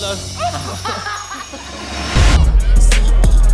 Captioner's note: group laughing